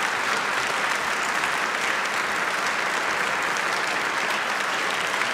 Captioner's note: applause